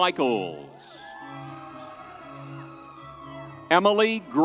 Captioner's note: audience cheers; vibrant music continues